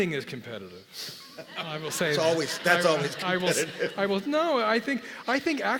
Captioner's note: laugh